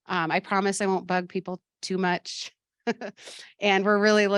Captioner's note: laughs